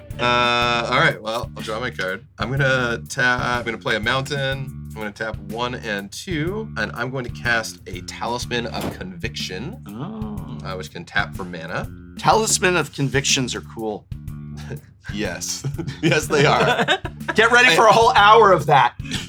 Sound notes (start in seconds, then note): 5.4 counting; 15.5 chuckles; 15.5 laughs